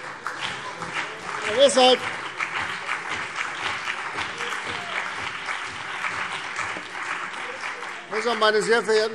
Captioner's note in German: Beifall CDU und BÜNDNIS 90/DIE GRÜNEN - Widerspruch SPD